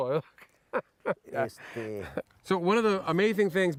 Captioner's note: laughs